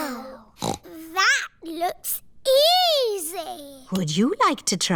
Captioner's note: snorts